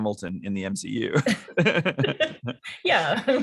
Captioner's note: laughter